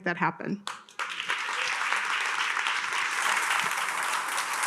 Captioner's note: attendees applauding